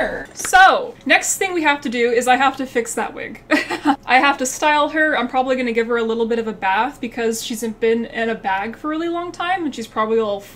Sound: laughs

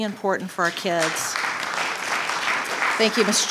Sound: audience applauding

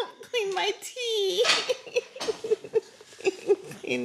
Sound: laughing

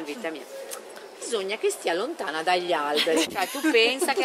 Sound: laughing

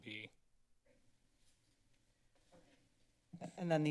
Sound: silence

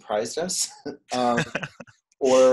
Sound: laughs

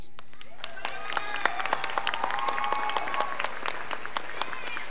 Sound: scholars applauding

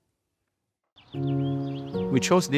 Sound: bird chirping; relaxing music

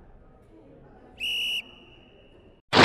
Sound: whistle blow

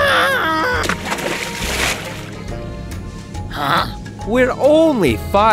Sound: splash

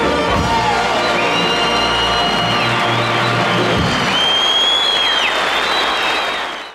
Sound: audience cheering

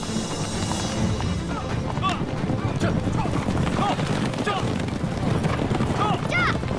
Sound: horse galloping

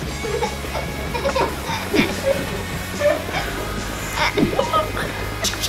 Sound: screaming and laughing

